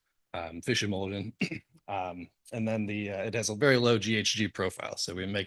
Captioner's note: cough